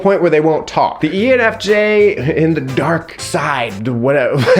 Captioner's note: laughs